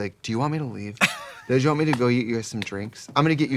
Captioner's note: Katya laughs